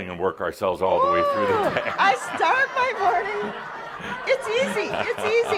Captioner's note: laughter